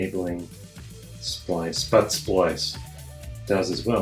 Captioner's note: American accent